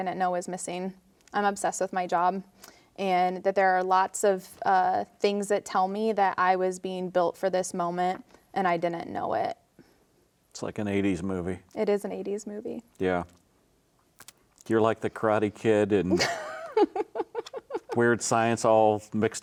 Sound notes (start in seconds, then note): 16.1 laughing